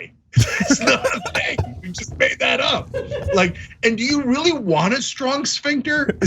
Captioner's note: laugh